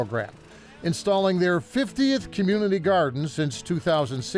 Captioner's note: machine whirring